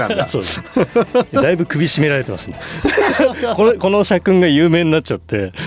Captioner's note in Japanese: 笑い